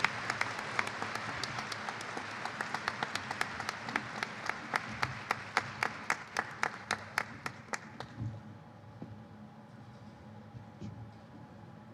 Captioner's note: applause